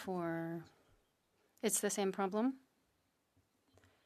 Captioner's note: speaking French